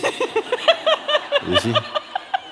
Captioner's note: laughter